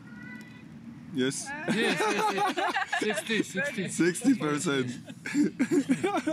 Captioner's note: laughs